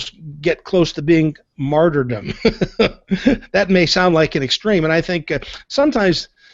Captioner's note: laughs